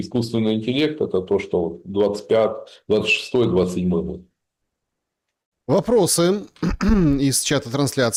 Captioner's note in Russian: откашливается